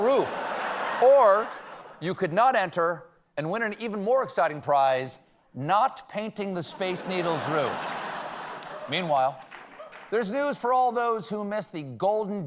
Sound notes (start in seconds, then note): 6.7 laughter